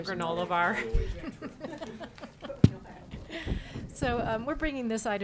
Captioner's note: laughing